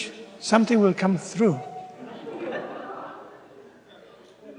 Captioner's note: laughter